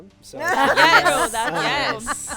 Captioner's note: group laughing